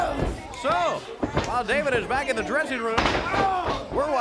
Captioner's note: crowd chatter